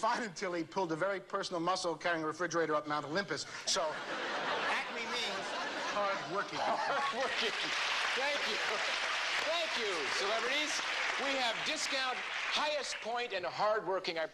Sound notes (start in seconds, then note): 7.2 clapping